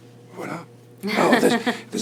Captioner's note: laughs